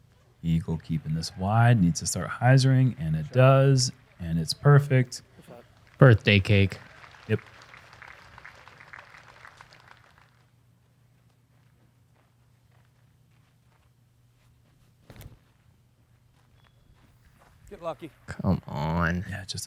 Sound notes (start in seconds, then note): 7.3 clapping